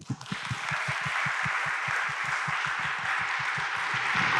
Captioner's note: audience applauds